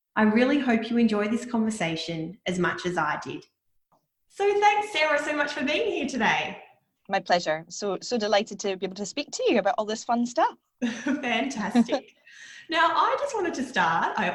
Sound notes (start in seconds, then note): 10.8 laughing